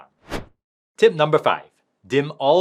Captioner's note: transition whooshing